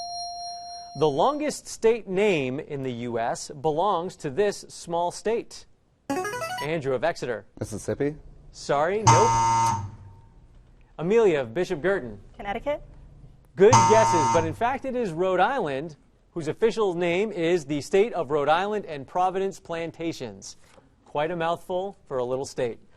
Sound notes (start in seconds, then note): 6.1 answer bell; 9.0 wrong answer buzzer; 13.6 wrong answer buzzer